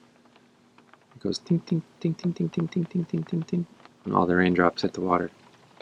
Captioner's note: imitating rain